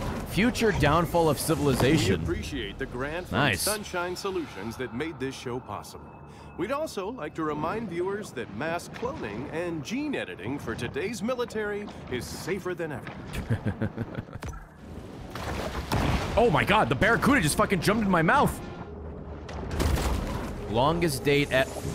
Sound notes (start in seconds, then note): 13.3 laughs